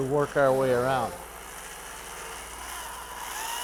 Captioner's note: whirring